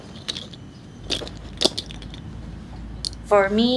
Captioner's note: knocking of seed pods